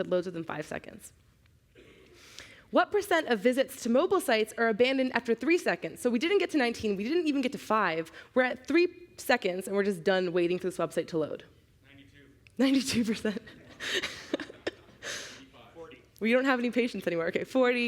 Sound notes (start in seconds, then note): 13.2 chuckling